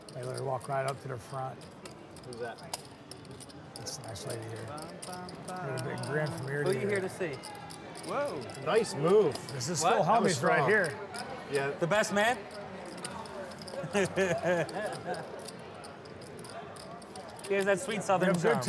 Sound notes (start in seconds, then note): 13.8 laughs